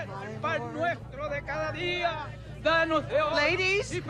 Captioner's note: Lord's Prayer in Spanish